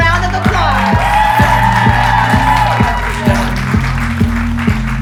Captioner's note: audience applauding